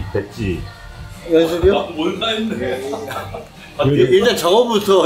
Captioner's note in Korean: 웃음